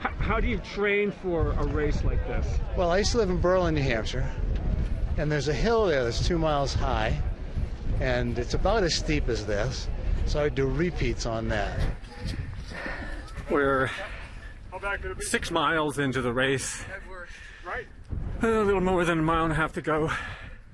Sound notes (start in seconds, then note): 12.0 breathing deeply